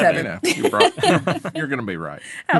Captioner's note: all laughing